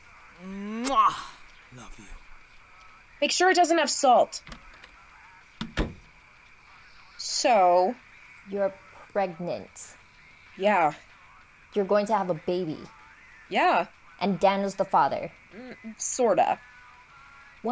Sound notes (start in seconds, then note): 5.7 door opens and closes